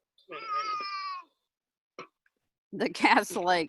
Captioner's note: yells